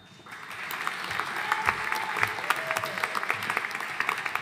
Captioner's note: audience applauding